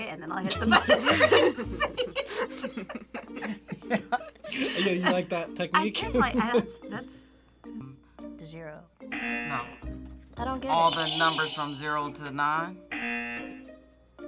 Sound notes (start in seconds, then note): 2.8 both laugh; 9.1 buzzer; 10.7 buzzer rings; 12.9 buzzer